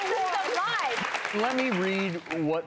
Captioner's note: audience applause